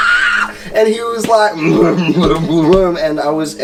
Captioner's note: grunts